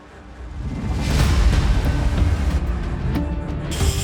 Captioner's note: words whooshing; pensive music